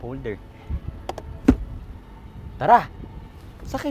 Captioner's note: 70mai Vacuum Cleaner Swift thuds in place